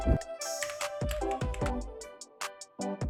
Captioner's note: typing